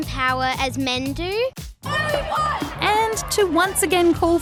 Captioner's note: shouts